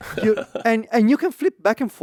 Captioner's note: laughs